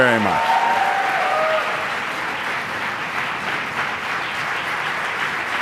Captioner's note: audience applauds